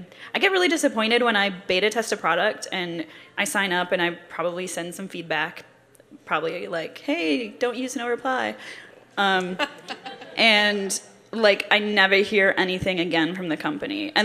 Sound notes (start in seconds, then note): 9.6 laughter